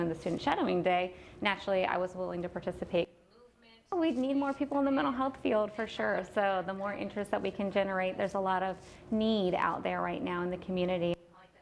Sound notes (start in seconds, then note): none